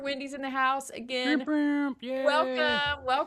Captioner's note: mimicking air horn blowing